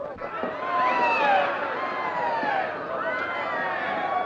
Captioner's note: crowd shouting